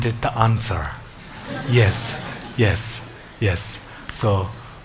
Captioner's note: audience laughs